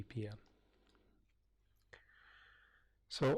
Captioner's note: pause